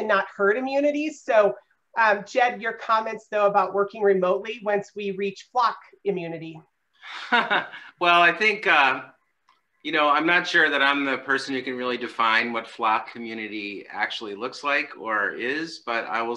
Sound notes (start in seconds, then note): 7.1 laughs